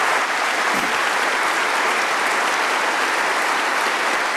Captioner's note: applause